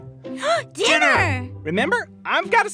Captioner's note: gasping